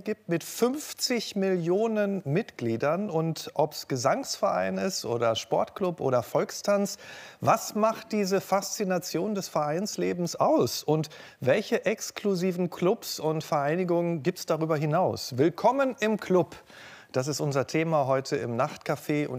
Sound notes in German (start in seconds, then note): none